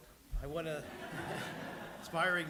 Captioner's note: laughter